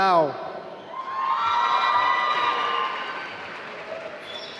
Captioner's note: applause